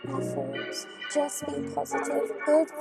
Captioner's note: echoing